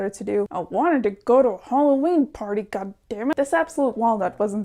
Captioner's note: through gritted teeth